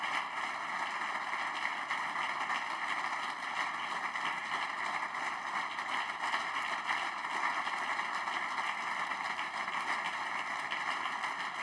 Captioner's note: applause